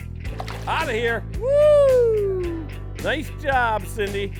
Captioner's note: shouting